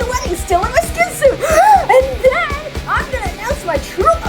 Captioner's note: inhale